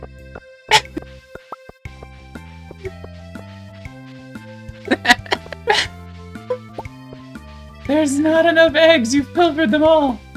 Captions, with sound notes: [Laughter] There's not enough eggs. You filtered them all.